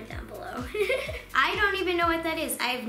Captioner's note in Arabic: يضحك